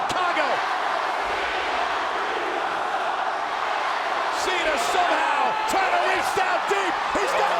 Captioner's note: applause